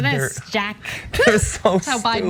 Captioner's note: laugh